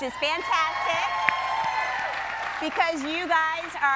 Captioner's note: audience cheering